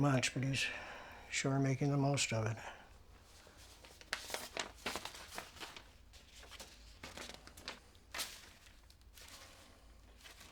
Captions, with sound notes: Gemma's inheritance wasn't much, but he's sure making the most of it. [paper rumbling]